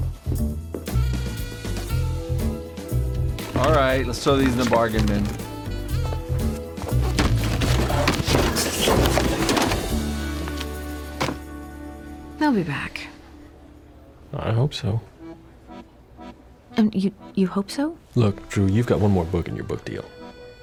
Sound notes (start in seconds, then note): 8.1 books fall; 11.0 book thuds